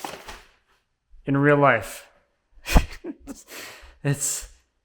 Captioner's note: laughs